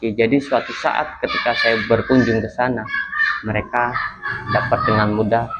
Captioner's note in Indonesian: tertawa